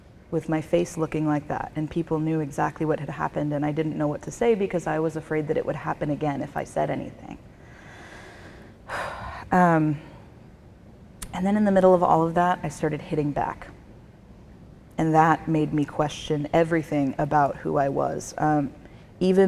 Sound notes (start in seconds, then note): 8.9 sighs